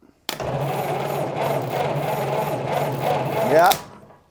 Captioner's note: engine sputters